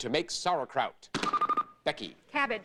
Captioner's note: bell rings